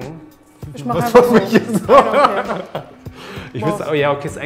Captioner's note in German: lachend